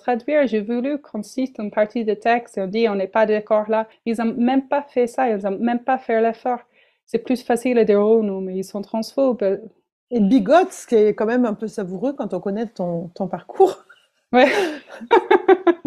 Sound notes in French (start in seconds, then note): 14.4 rires